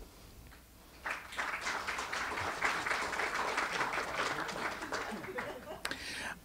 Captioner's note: audience applause